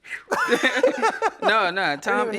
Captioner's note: laughing